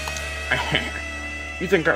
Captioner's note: chuckles